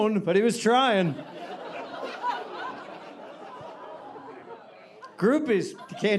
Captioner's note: audience laughing